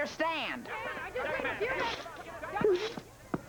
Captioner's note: all clamoring